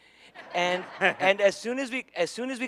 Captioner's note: audience laughing